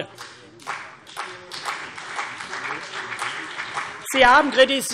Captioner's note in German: Beifall CDU und BÜNDNIS 90/DIE GRÜNEN